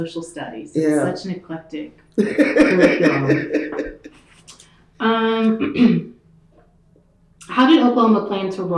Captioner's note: laughter